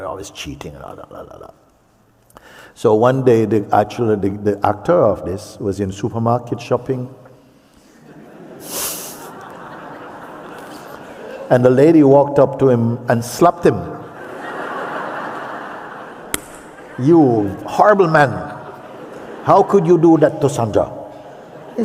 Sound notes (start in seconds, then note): 7.9 laughter; 8.0 chuckles; 14.0 laughter